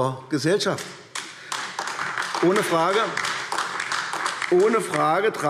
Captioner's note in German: Beifall AfD